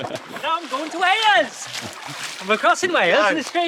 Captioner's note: Welsh Accent